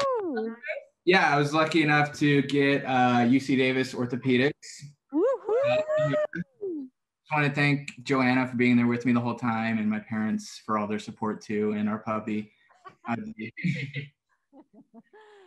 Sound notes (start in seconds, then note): 5.2 cheering